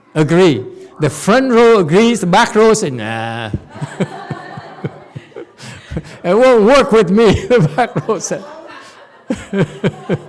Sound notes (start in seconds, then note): 3.5 audience laughs; 7.2 laughs